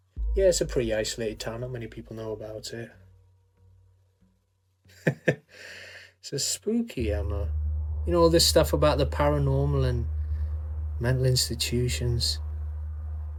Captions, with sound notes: Yeah, it's a pretty isolated town. Not many people know about it, hey. (Sanjeev chuckling) This is spooky, Emma, you know all this stuff about the paranormal and mental institutions.